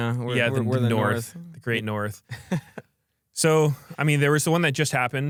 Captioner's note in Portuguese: risos